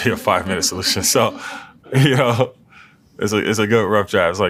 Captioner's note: laugh